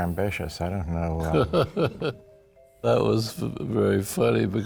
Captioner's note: laughs